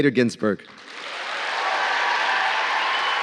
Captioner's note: applause